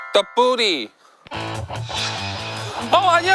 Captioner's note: swoosh